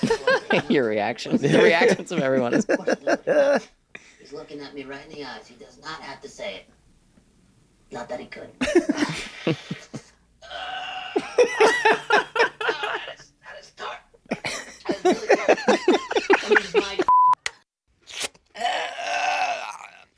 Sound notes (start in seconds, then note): 11.2 laughter; 18.6 groans